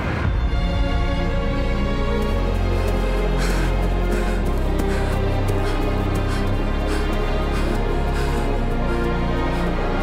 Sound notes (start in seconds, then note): 1.3 music swells; 2.7 Lucina panting